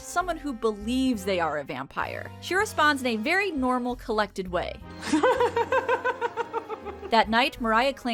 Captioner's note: laugh